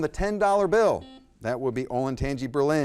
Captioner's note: buzzer blaring